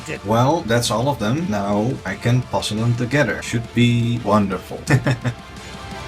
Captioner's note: laughs